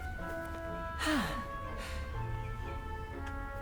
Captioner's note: sighs